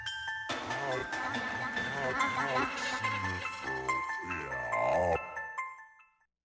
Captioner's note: eerie reversed voices chattering